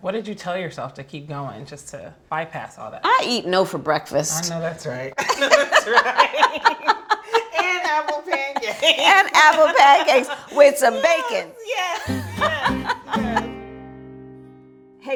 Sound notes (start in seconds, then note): 5.4 women laughing; 11.9 upbeat guitar music